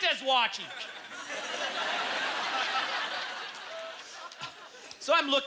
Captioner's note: audience laughter